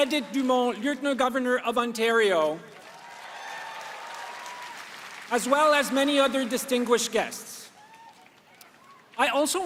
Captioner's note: applause